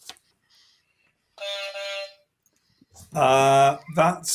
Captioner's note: honk